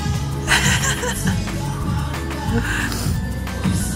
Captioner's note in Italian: risata